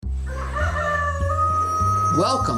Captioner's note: rooster crowing